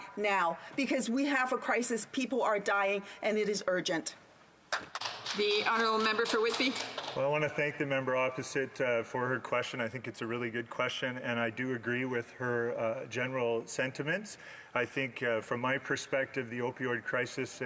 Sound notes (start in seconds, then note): 8.1 some Applause